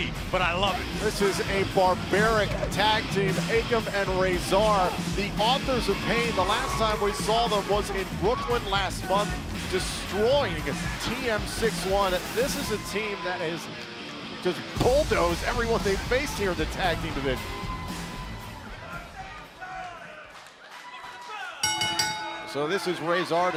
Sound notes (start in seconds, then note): 21.6 bell ringing